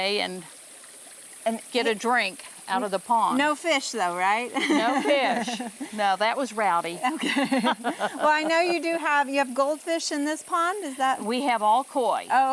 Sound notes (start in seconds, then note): 4.4 laughing; 7.1 both chuckling